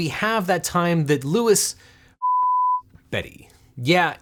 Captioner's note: beep